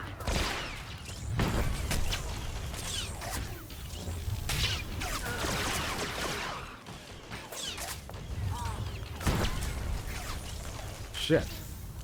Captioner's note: gunshots